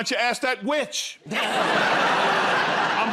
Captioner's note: laughter